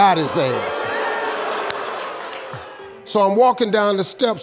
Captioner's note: audience booing